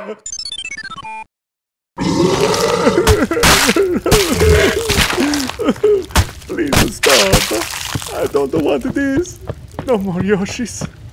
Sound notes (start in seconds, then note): 0.2 beeping tune; 2.0 Mario crying; 2.1 fighting noises